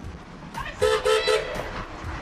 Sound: car horn beeps

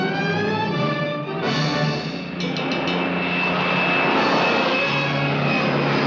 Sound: airplane roars

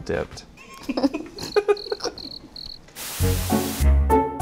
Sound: giggling and crickets chirping; mischievous music

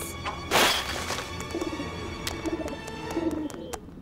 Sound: cooing

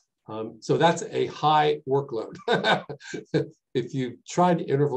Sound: laughs

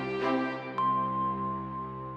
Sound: chime

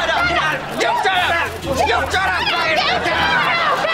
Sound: arguing

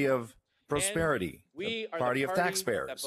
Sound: speaking french

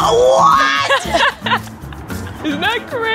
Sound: Colleen laughs

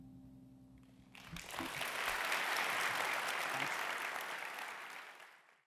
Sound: applause

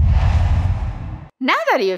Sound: logo swooshes

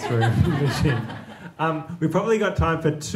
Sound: audience laughing

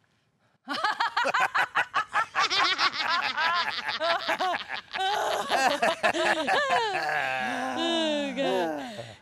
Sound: laughter

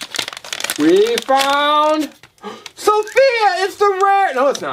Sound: gasps

